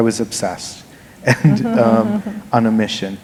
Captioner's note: laughter